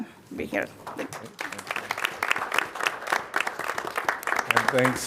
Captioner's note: applause